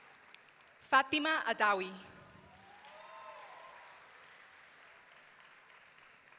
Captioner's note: audience cheering